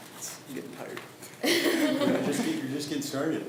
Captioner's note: laughs